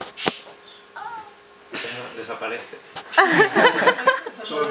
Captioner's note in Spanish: risas